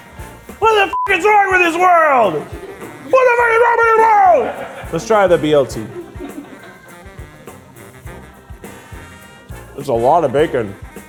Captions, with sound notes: What the (beep) is wrong with this world? What the what is wrong with this world? Let's try the BLT. (upbeat music) That's a lot of bacon.